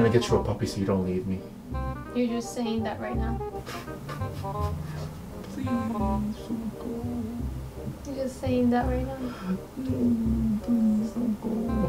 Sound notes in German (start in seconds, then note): 3.6 Wimpering